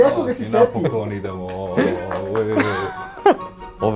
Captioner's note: applauds